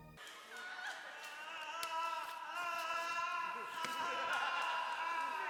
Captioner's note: background bedlam of the insane asylum